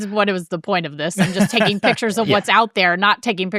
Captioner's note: laughing